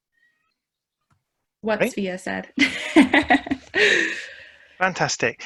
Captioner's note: laughs